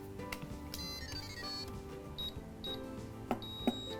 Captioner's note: machine beeping